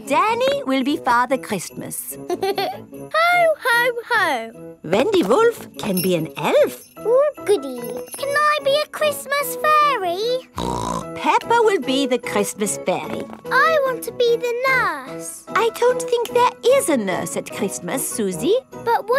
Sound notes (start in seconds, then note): 2.2 giggles; 10.5 snorts